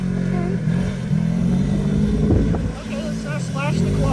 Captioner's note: ATV engine roaring